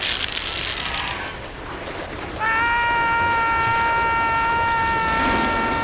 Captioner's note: screaming Resumes